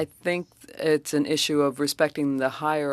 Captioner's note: speaking French